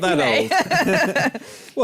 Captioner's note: laughter